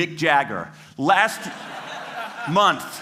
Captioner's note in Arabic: ضحك